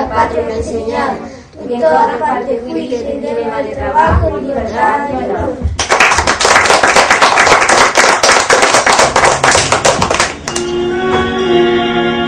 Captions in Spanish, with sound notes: La escuela me ha enseñado que en todas partes fuiste emblema de trabajo, de libertad y honor. [aplausos]